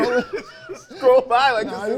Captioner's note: both laughing